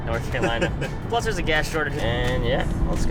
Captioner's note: laughing